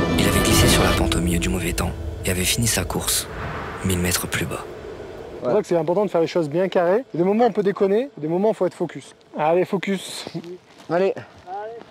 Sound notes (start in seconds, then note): none